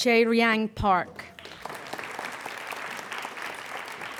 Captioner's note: applauding